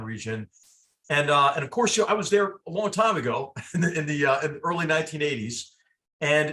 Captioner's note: laugh